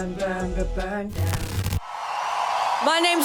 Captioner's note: people cheering